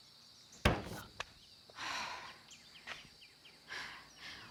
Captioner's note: knocking